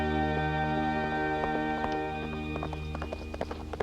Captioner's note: hooves clomping